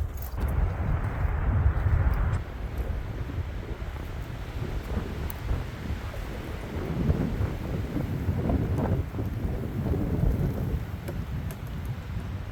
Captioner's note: wind howling